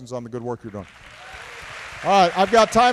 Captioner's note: applause